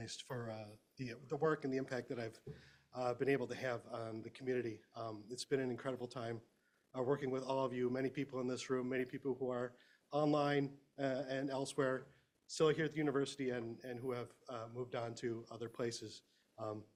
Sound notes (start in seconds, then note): none